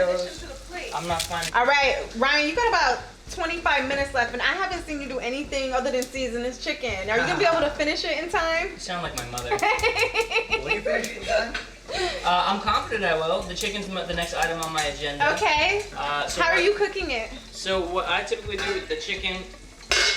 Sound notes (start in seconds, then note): 9.6 laughing; 11.8 murmurs; 19.9 lid clacks